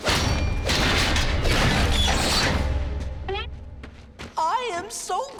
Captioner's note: none